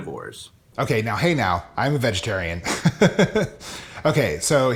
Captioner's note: chuckles